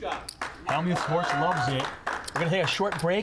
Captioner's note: crowd clapping